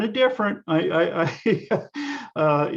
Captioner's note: laughs